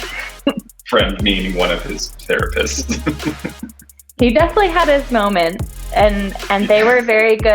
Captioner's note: laugh